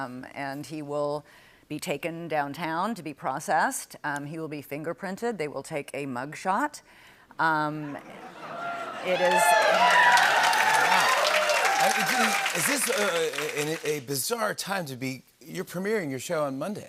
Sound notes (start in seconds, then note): 7.8 laughter; 10.3 cheers and applause